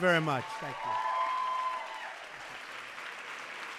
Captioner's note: applause